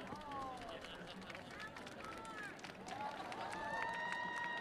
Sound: audience applauds

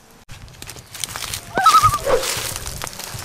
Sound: loon call

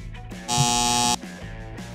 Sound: buzzer

